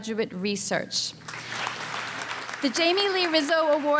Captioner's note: applause